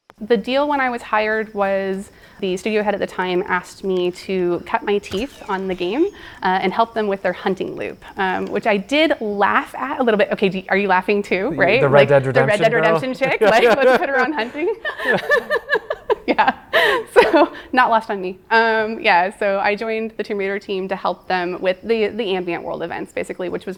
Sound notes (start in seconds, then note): 14.0 interviewer laughing; 15.7 laughing